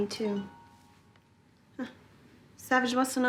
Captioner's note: cell phone chimes; chuckles